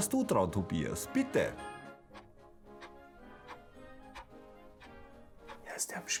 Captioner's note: clock is ticking